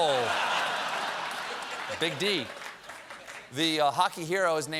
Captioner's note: laughter